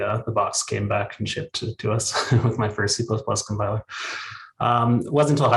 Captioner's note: chuckles